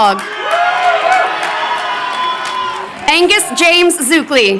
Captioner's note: crowd cheering